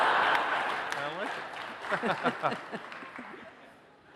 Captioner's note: chuckles